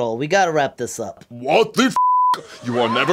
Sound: beep

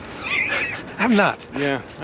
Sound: laughs

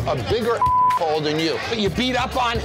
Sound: beep

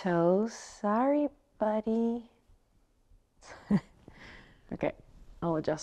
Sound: chuckles

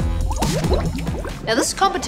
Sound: bubbles

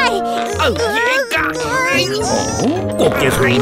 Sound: both grunt

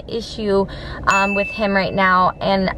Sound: bell dings

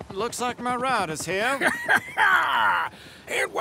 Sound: guffaw

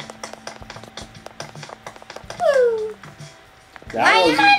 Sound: calm music; footsteps

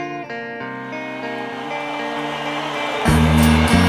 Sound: audience cheering

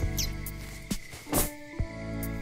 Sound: hits ground

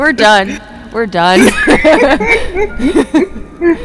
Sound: more Laughing

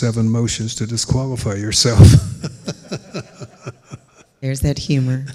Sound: laughing

